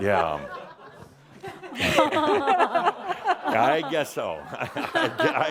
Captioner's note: some laughter